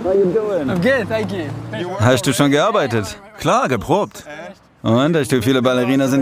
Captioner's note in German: englisch